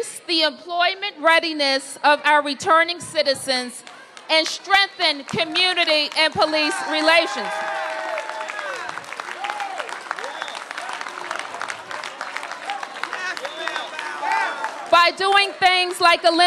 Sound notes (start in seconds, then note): 10.7 applause